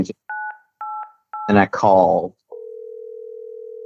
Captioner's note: dialing; phone rings